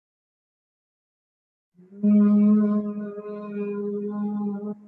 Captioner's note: humming